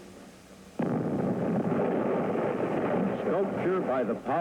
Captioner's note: dynamite exploding